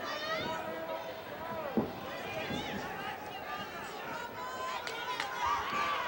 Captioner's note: audience applauding and cheering